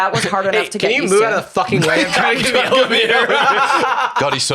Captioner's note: laughs